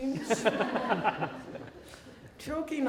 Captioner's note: laughing